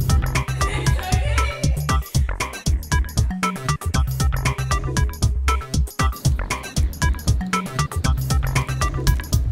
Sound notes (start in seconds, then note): 0.4 laugh